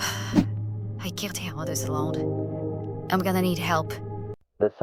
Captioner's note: sigh